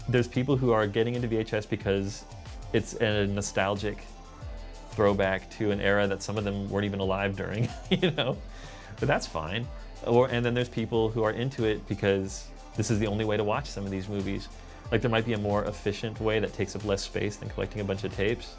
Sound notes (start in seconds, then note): 7.5 chuckling